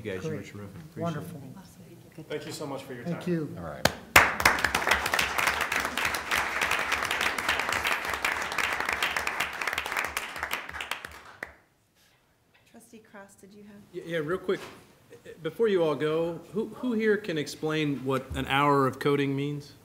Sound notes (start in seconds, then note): 4.1 applause